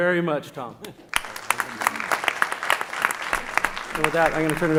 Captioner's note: applause